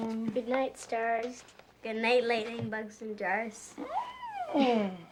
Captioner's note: squeals; chuckles